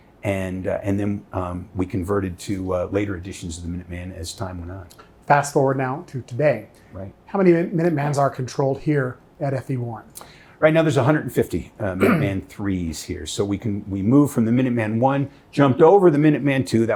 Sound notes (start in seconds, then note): 12.0 clearing throat